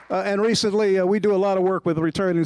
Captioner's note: applause